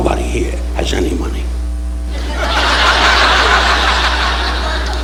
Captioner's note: audience laughing